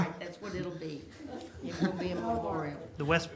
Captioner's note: laughter